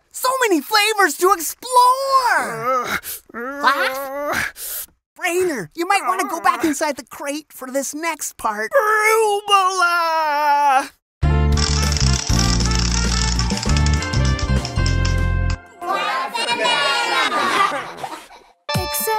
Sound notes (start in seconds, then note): 3.3 Glaff grunting; 5.9 grunts; 16.0 kids laughter